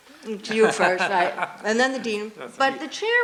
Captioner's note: laughs